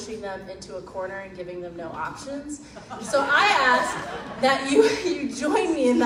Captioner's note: crowd laughs